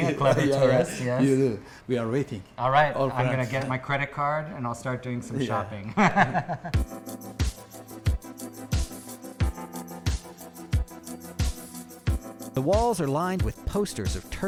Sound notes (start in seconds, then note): 5.9 laughs